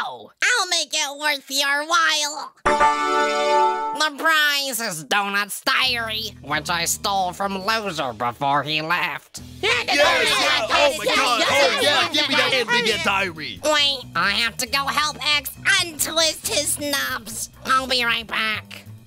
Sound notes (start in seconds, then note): 2.6 "Ta da" sound effect; 9.7 cheering, yelling over eachother